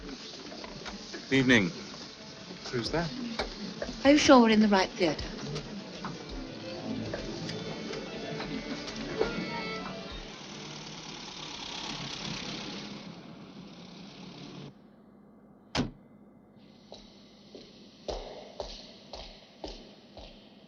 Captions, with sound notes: - Good evening. - Who's that? - Are you sure we're in the right theater? (car engine whirring) (door banging) (footsteps)